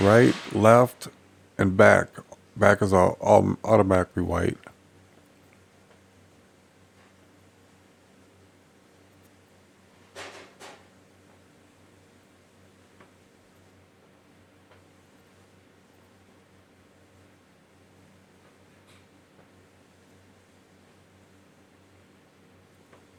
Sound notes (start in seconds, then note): 5.9 silence